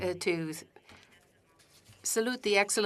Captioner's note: speaking French